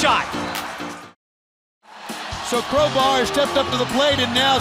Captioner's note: crowd cheering